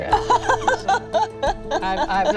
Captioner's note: laughing